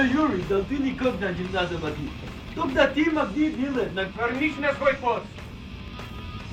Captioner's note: laughs; speaking in foreign language